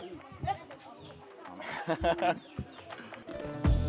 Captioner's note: laughs